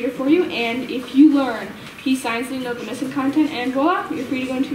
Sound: none

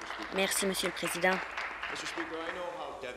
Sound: applause

